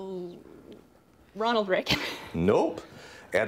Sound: laughs

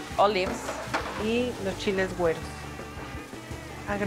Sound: speaking Spanish

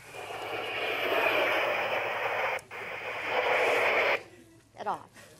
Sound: white noise machine hissing

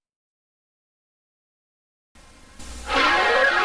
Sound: silence; analog synthesizer swirling sounds continuing

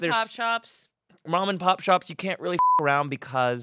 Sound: beep

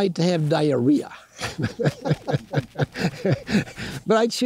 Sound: laughing

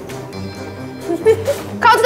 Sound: laughing

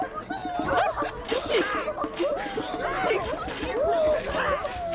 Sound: patrons start hiccuping, one by one; everyone hiccuping

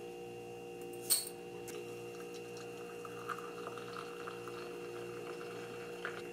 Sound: pouring hot water

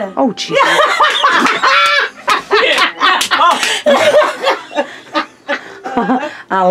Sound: laughing

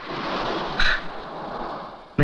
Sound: sighs

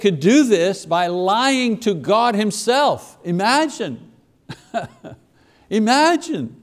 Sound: laughs

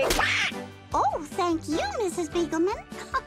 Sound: squawks

